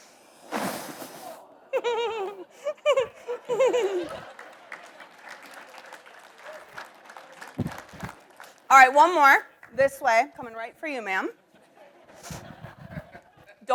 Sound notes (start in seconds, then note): 0.4 flame roars; 1.7 giggles; 3.3 audience applauds